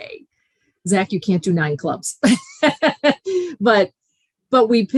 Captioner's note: laughing